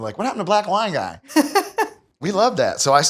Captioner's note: laughs